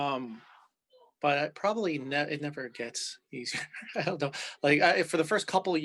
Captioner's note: chuckles